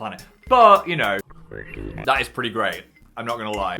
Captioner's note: creepy animal murmurs